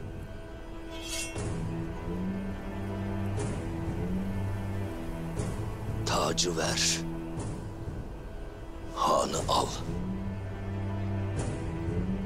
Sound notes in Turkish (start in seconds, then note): 0.8 Kılıç Sesi